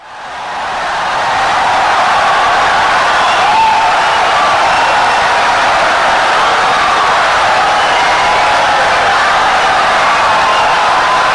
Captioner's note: wild applause and cheering for 17 seconds